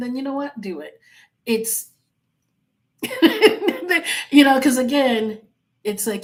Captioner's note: laughing